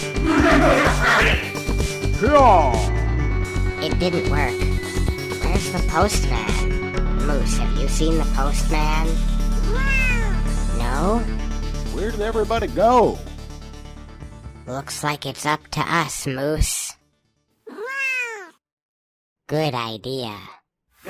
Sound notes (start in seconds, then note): 0.0 angry noises; 2.8 heroic noises